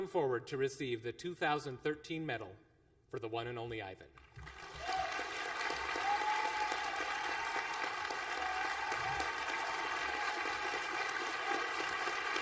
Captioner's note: applause